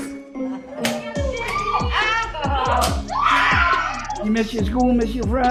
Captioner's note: laughter, screaming